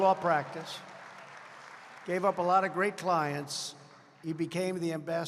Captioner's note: applause